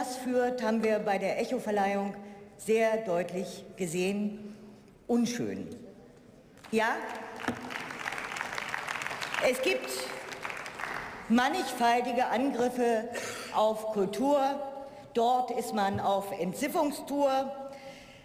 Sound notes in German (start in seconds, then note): 6.6 Beifall